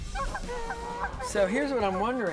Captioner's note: geese honking